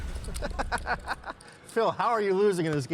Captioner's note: laughing